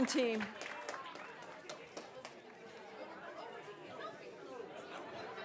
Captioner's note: students chatting